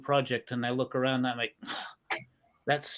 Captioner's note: moaning